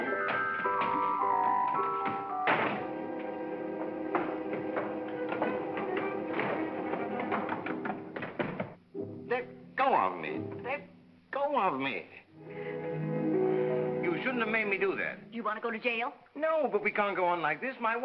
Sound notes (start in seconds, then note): 0.0 whimsical music; 1.4 door slams; 4.3 footsteps down stairs; 4.3 whimsical music; 12.3 romantic music